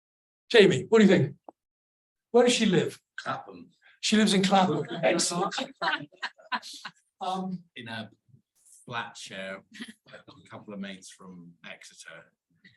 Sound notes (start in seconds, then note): 4.4 audience laughs